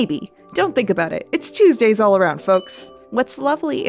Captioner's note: ding